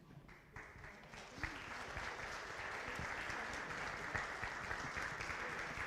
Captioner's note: audience applause